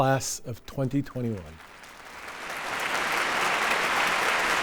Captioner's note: people applauding